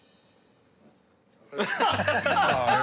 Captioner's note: laughter